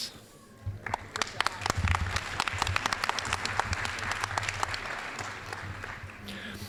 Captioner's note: applause